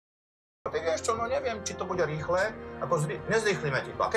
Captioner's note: slovak Accent